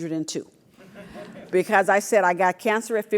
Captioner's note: laugh